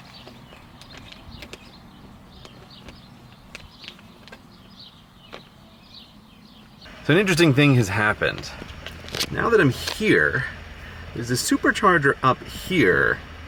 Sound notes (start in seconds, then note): 2.1 birds chirping; 2.3 crunching